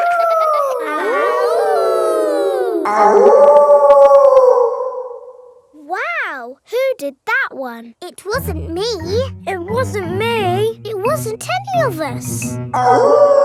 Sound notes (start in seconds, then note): 0.0 kids howling; 0.0 howling; 3.5 wolf howling loudly